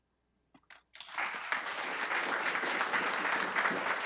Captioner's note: applause